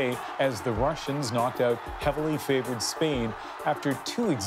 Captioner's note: cheers and Applause